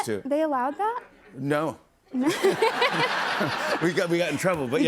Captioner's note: laughter